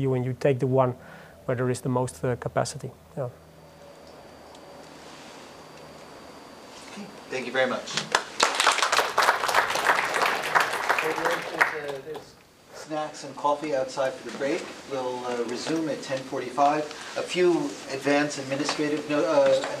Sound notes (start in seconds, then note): 8.0 applause